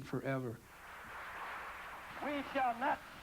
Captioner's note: applause